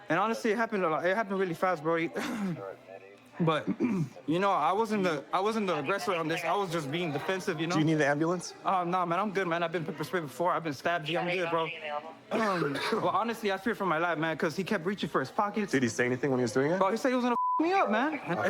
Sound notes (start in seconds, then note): 12.3 coughs